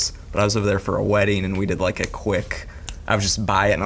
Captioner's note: snaps fingers